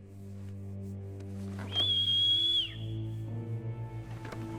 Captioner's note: light haunting music; whistling